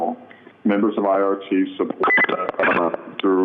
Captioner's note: interference ringing